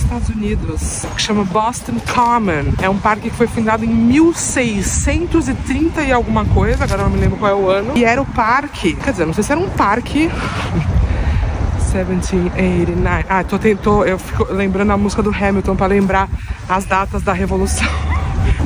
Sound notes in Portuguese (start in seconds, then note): 11.6 cantarolando